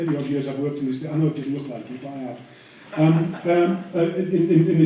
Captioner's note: laughter